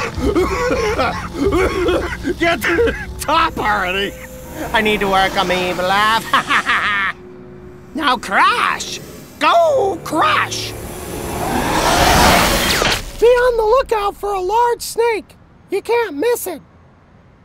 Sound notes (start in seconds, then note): 0.0 coughing; 6.3 cackling; 11.5 hissing